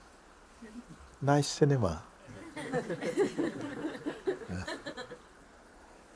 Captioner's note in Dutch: gelach